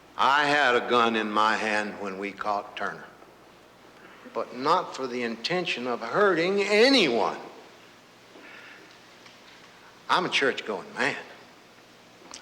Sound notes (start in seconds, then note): none